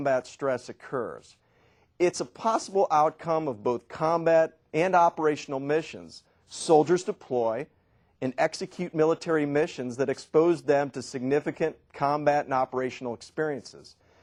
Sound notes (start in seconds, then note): none